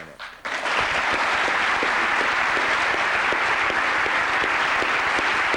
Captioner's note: applause